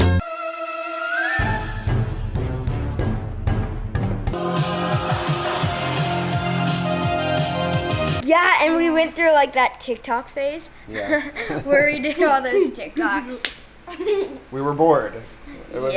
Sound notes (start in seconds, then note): 4.3 high energy music; 10.9 laughing happily; 13.0 imitating beat; 13.4 hands clapping; 13.8 laughing happily